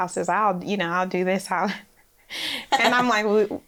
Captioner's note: laughs